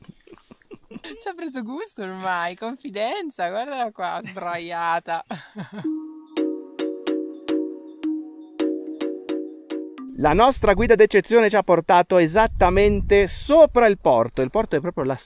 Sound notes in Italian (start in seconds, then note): 8.3 risate